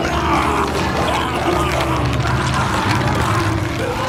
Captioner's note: screaming, growling, nomming